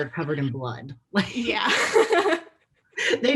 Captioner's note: laughing